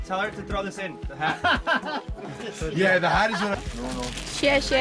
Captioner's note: laughing; speaking foreign language